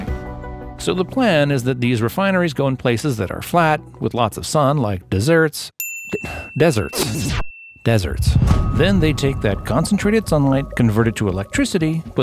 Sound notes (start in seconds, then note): 5.8 bell dinging